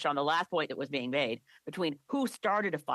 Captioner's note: speaking French